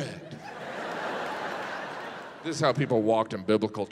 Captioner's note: audience laughs